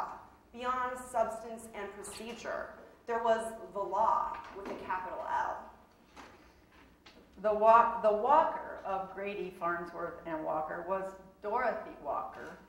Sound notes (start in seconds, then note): none